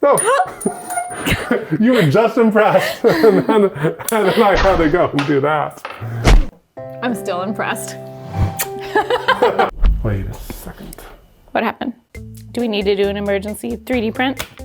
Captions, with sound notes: Oh, you were just impressed. And then I had to go and do that. (slow music) I'm still impressed. (graphic swooshing) (both laughing) Wait a second. What happened? Do we need to do an emergency 3D print?